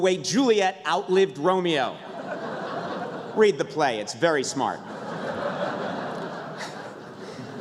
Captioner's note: laughter